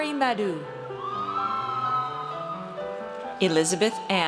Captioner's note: audience cheers